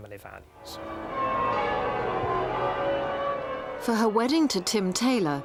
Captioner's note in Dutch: klokken luiden